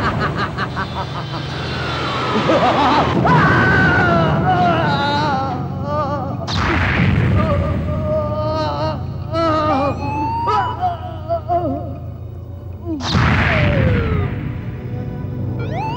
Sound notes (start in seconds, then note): 0.0 laughs; 3.1 groans